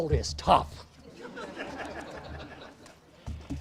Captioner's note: audience laughs